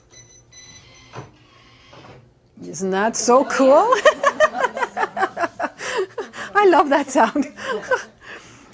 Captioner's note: laughing